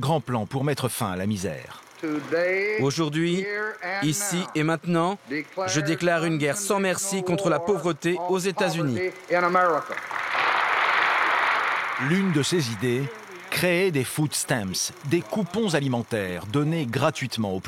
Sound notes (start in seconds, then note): 9.8 crowd applauding